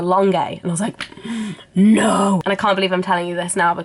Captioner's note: gasp